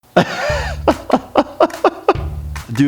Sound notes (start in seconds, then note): 0.1 laughing; 0.4 upbeat music